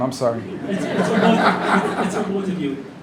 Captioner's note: laughter